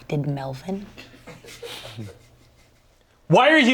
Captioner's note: crew laughing